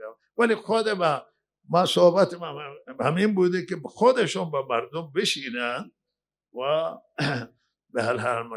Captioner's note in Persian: گلویش را صاف می‌کند